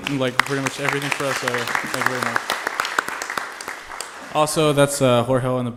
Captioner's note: applause